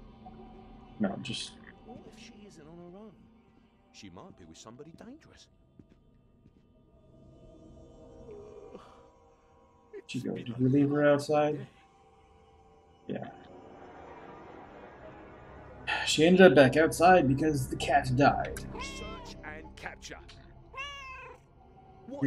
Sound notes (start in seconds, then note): 8.2 yawns; 15.7 sighs; 20.7 Hodge meows